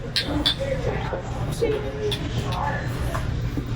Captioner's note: glasses clinking